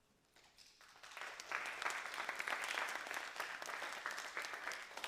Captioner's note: applause